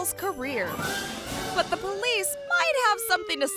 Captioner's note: siren wailing